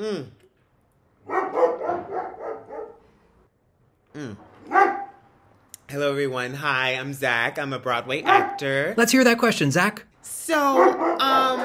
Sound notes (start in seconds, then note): 1.2 dog barks